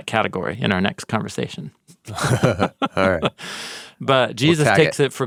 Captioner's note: both laughs